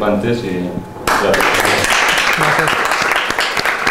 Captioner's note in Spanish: aplauso